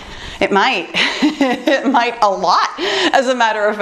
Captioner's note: laughs